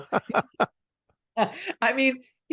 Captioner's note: laugh